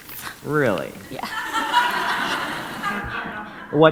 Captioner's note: audience laughs